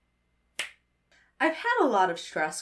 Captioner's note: snaps fingers